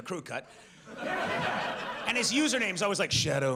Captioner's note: audience laughs